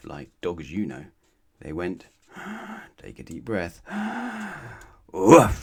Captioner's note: take a deep breath